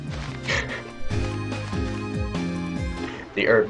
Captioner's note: chuckles